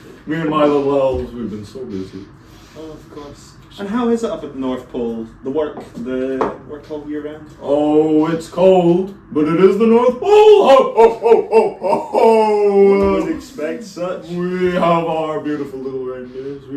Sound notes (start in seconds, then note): 10.2 Santa laughter